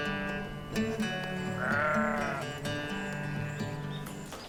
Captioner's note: birds twitter, sheep bleat